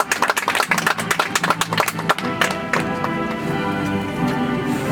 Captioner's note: audience applauds